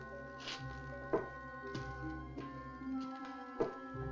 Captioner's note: cane Thumping